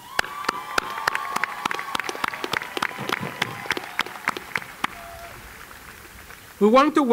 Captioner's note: cheering and Applause